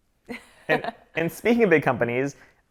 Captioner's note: laughs